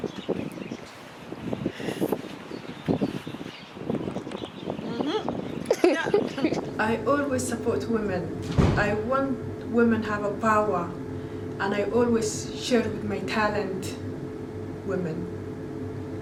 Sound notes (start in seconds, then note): 5.6 laughs